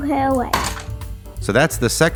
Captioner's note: crash